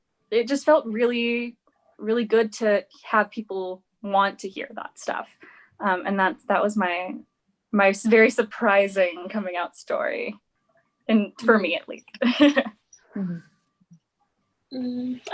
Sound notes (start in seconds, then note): 12.1 laughs